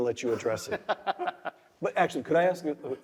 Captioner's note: laugh